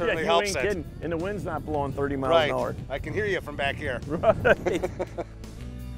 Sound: laughing

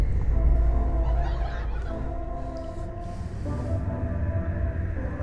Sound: laughter from outside is heard

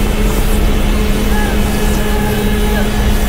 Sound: whooshing

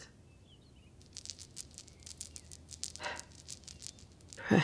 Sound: the clink of jewelry as she runs her fingers through a set

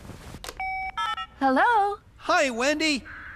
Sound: cell Phone Tones

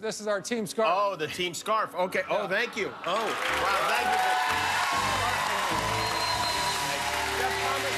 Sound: cheers and applause

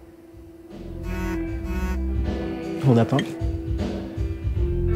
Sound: phone notification

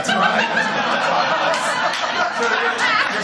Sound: laughter

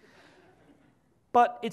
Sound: audience laughs

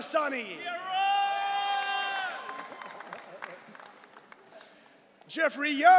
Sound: audience cheering

